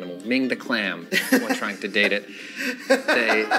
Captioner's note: laughs